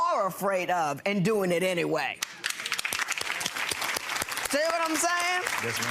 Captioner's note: applauding